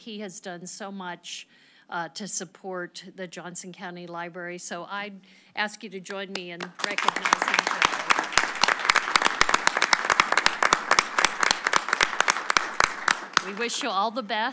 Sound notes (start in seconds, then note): 9.0 applause